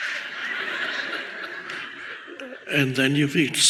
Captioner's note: audience laughs